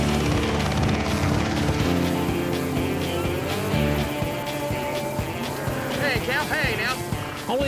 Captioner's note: helicopter whirring